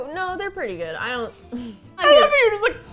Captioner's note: both laugh